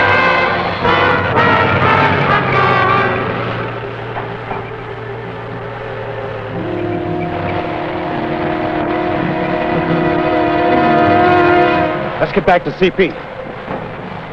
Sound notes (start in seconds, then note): 0.1 distant engine rumbling; 1.6 dramatic music; 1.6 tank engines humming; 11.6 anxious music